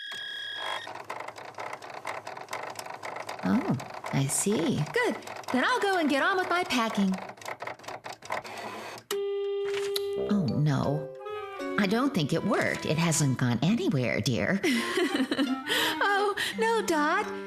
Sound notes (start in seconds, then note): 0.0 dial Tone; 0.0 beeping; 9.3 buzzing; 14.6 chuckling